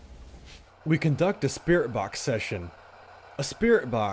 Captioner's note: voiceover